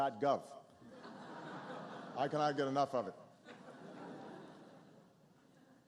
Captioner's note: laughter